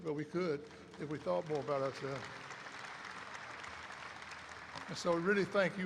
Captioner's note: applause erupts